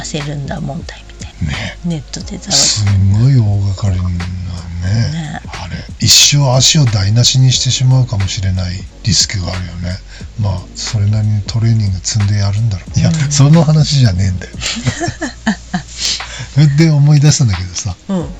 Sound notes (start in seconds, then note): 15.5 laughs